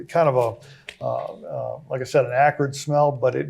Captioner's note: stammers